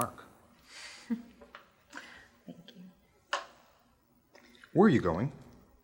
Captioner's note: chuckles